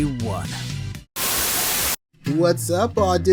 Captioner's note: Static